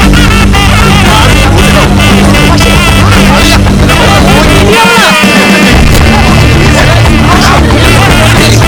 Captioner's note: Commotion among Families